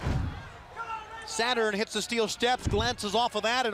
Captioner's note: crowd chatter